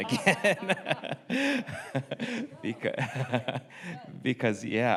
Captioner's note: everyone laughs